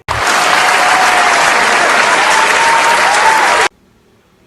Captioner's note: crowd applause